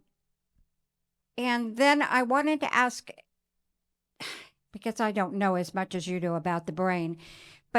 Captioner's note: sighs